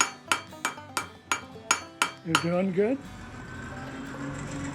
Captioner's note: hammer striking metal